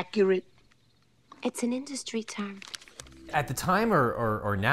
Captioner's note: paper rustling